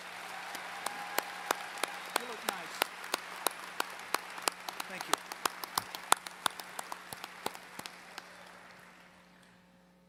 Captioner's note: applause